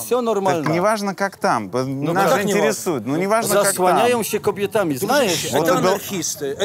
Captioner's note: side cap speaks in Polish